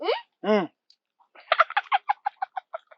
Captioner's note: laughs